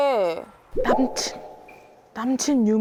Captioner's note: cautious tone